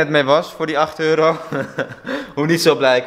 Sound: laughing

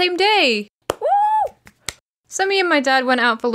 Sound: clap; clap clap

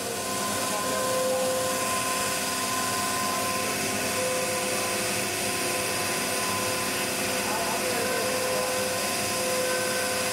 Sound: machine cutting

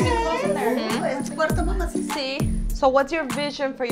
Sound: Eileen's grandma speaks in foreign language

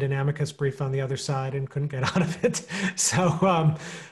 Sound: chuckling

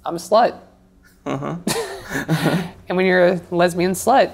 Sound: laughs

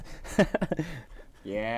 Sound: laughs

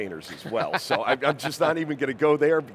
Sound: laughing

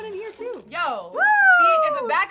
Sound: cheers

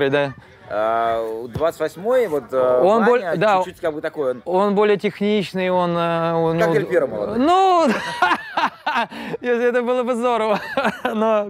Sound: laughs

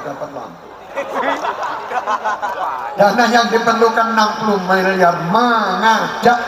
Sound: laughs

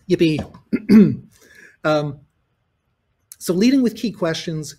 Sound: clears throat

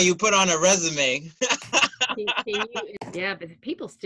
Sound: laughter

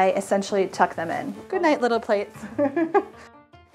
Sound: laughs

